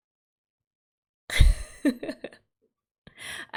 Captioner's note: laughs